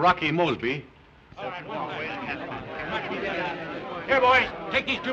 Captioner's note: indistinct chatter